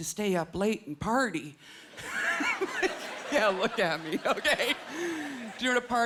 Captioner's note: laughing